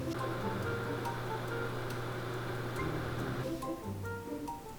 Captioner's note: oven fan whirring